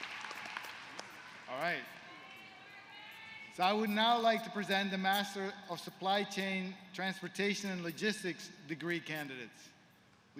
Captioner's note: applause